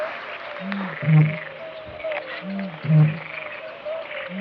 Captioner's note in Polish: Aplauz